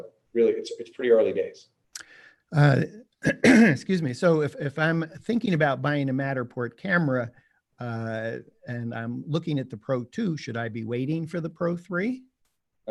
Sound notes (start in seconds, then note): 2.6 coughs